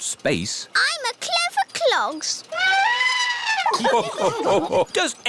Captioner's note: trumpets; all laugh